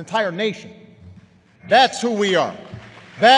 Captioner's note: applause